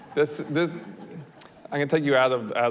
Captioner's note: audience laughs